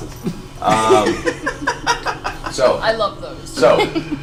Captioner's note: all laugh